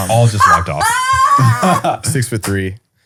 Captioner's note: laughing